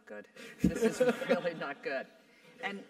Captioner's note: laugh